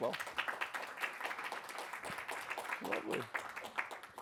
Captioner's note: applause